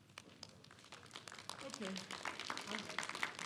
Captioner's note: clapping